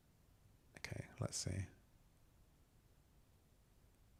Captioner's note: silence